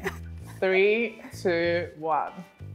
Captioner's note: laughs